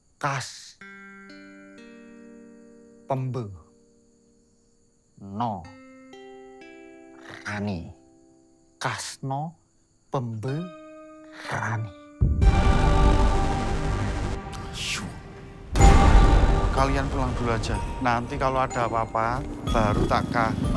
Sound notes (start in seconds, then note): 12.3 patriotic music; 14.5 whispers